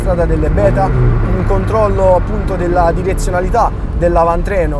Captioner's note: exhaust